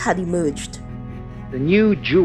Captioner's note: soundbite of archived recording